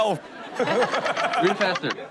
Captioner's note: all laughing